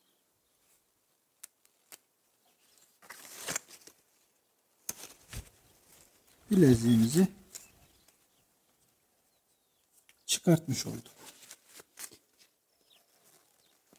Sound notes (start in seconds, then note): 1.3 cracking sounds and bird sounds; 8.6 crunch and bird sounds; 10.6 bird sounds and rustling sounds